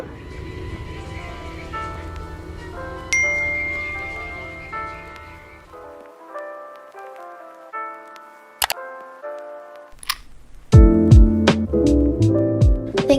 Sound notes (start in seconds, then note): 0.2 music + Notification Bells & Clicks; 10.0 unlock Sound